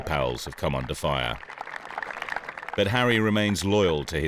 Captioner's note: players clapping